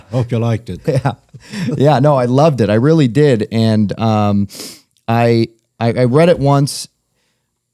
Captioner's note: laughter